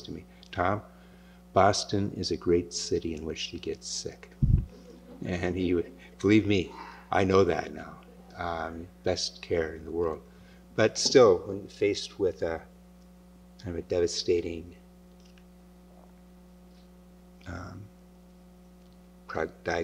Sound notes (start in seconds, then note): 4.7 laughter